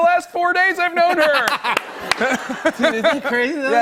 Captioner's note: laughter